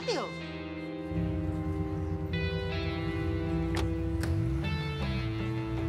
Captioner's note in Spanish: portazo